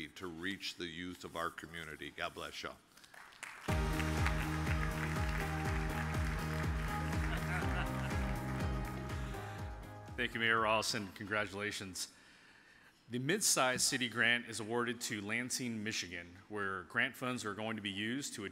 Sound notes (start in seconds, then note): 3.1 audience applauds; 3.6 upbeat music